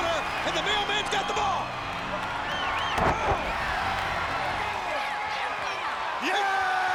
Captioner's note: applause